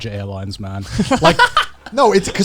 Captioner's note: chuckling